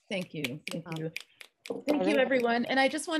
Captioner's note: snapping fingers